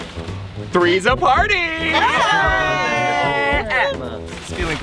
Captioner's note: campers cheering